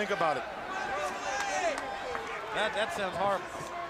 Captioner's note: crowd chatter